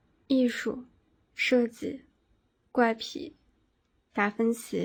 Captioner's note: speaking in foreign language